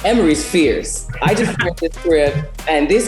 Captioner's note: all laugh